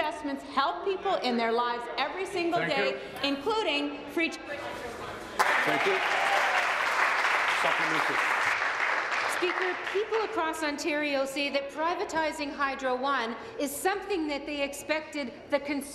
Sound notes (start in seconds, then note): 8.5 applause